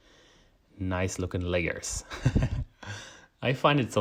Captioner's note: laughs